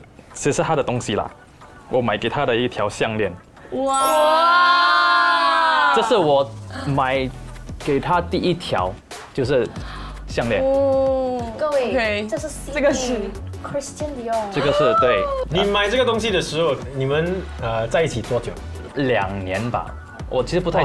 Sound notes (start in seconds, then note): 3.8 wah